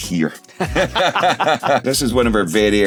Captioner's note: laughing